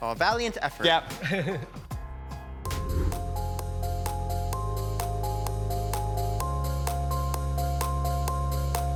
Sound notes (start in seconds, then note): 1.2 chuckles; 2.6 gentle upbeat music; 2.6 image whooshes